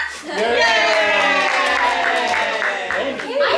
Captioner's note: family cheers